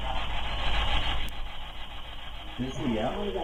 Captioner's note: faint Voice